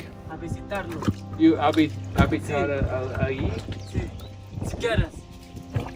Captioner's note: speaking in foreign language